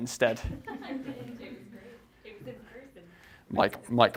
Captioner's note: audience laughing